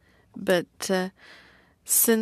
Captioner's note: speaking french